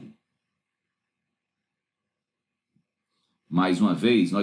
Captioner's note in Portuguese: Silêncio